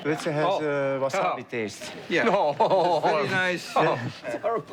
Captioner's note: laughs